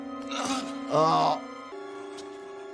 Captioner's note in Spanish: música dramática; Walter gruñe